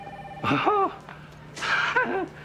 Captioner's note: Nash scoffing